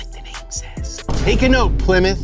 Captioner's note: crashing sound